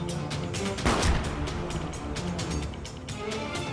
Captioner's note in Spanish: Disparo